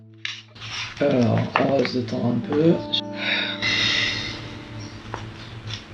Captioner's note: breathing